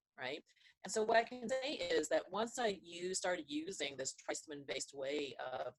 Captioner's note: audio distortion